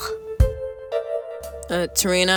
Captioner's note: humming